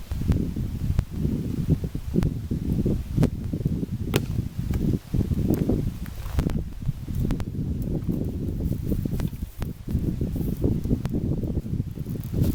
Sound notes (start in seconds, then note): 0.0 wind and fire crackling